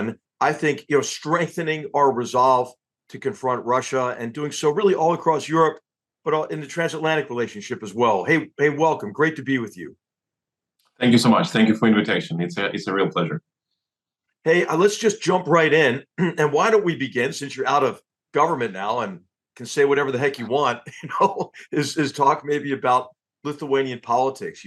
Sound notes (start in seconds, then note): 16.1 cough; 20.4 laugh